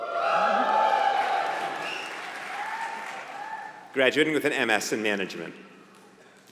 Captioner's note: applause